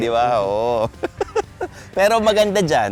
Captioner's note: laughs; continues laughing